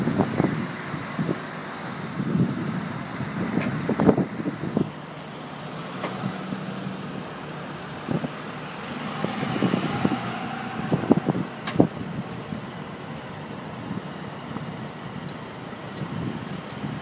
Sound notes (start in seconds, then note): 2.0 beep, Beep, Truck Beeping